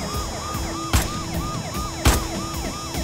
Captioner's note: Bullets firing